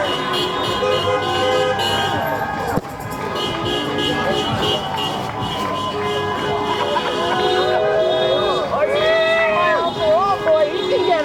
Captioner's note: applause